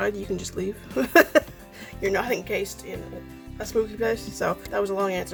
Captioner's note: laughs